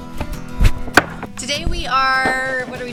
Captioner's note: upbeat music; pallet thuds